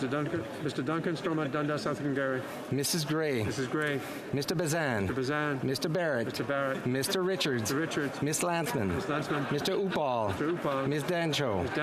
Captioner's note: calling of recorded vote